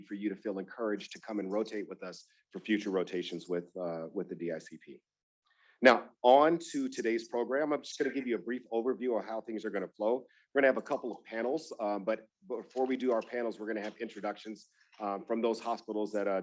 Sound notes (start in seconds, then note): none